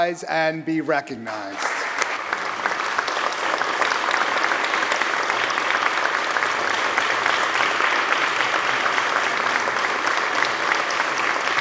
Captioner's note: applause